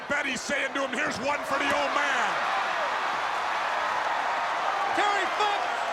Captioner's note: crowd cheering